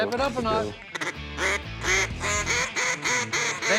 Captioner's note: duck calls quacking